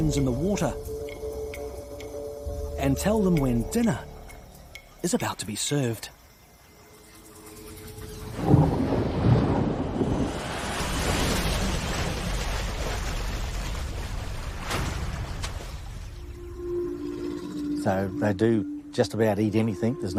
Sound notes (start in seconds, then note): 8.2 water splashing; 8.5 suspenseful music; 15.2 gentle dramatic music